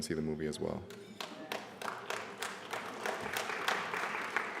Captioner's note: applause